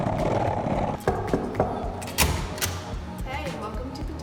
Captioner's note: knocking